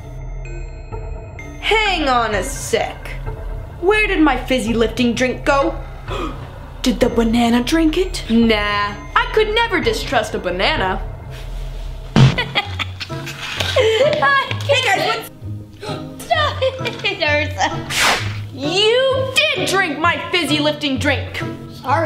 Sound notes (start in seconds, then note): 0.3 dramatic music; 5.9 gasps; 12.3 laughs